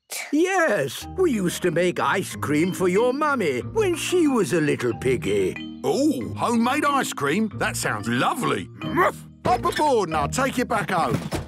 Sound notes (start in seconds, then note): none